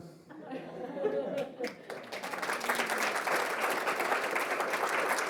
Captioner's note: audience laughing and applauding